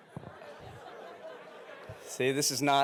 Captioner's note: audience laughing